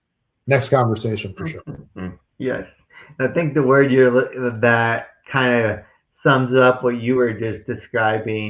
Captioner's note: chuckles